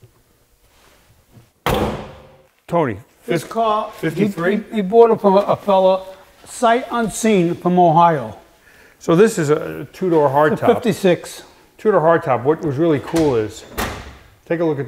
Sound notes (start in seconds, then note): 1.7 hood thudding